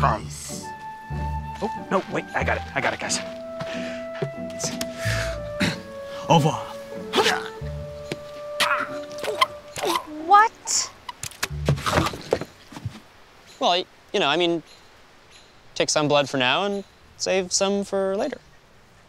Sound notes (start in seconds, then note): 7.1 death groan; 7.1 continued death groans